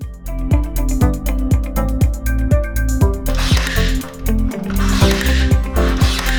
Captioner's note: upbeat music; nail gun shooting